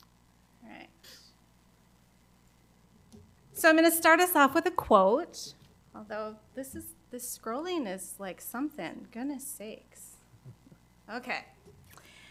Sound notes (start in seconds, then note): none